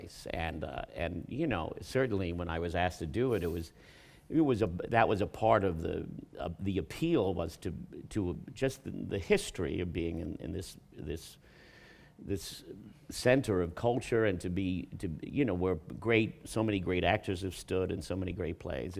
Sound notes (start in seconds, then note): none